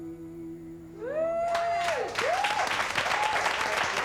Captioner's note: crowd cheering; crowd clapping